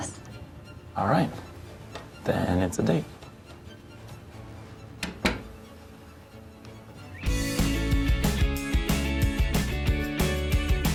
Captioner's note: door creaks closed